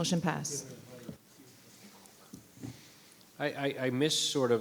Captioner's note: staff member speaking faintly